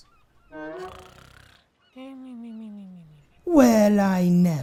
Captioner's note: boy snores